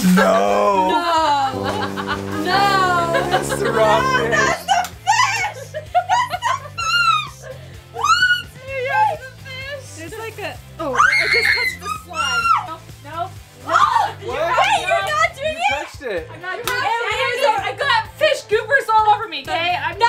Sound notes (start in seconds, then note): 7.2 all laughing; 10.9 screaming